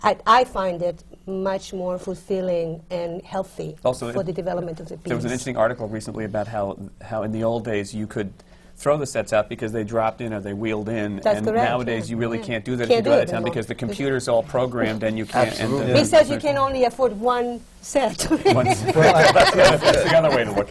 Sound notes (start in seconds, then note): 18.1 laughter